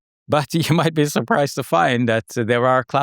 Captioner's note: laughs